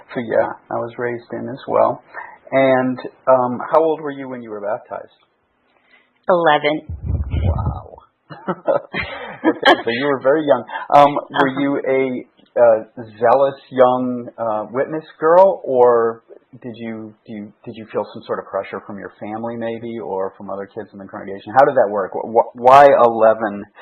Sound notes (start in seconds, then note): 8.3 laughing